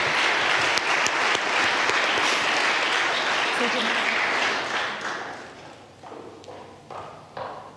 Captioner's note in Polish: oklaski